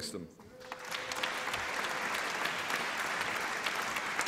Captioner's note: applause